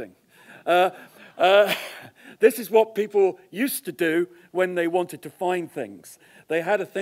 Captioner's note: cough